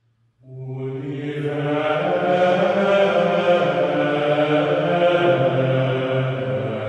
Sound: chanting

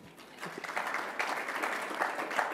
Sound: applause

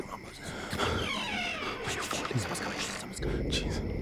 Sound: whispering; house door opens

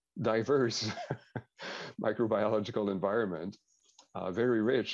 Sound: laughs

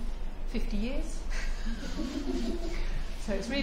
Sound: laughter

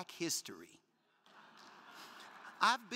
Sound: crowd laughing

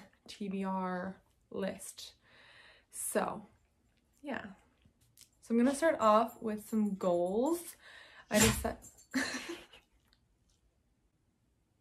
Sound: dog sneeze

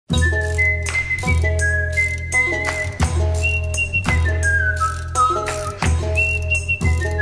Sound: whistling and music playing

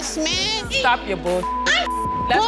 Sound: beep

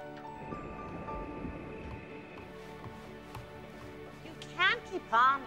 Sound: crickets chirping

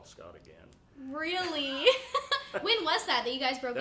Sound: laughing

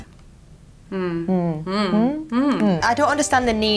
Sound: both grunting

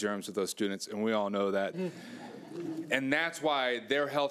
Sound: audience laughing

